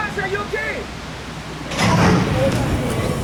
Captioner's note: static; thud